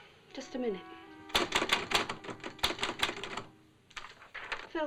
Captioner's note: typewriter chattering